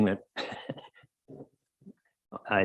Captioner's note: chuckling